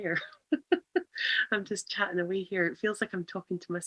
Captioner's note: laughs